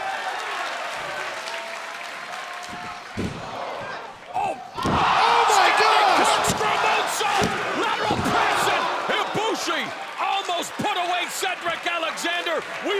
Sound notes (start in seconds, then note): 0.2 crowd cheering; 3.6 crowd exclaiming